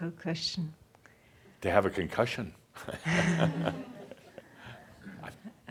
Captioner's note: Adamus chuckles